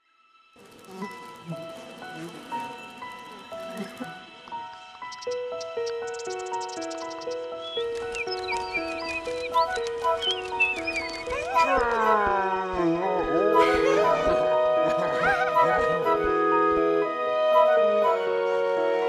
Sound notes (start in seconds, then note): 5.0 squirrels chittering, birds chirping; 12.0 bear growling